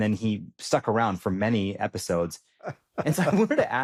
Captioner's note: laughs